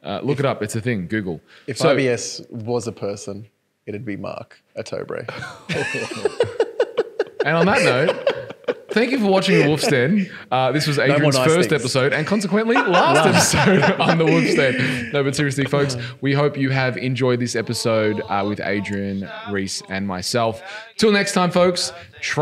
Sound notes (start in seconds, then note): 5.3 laughing